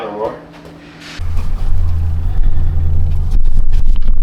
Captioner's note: engine Revving